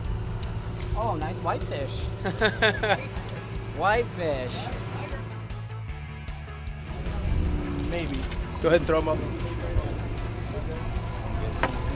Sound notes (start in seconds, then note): 2.2 laughs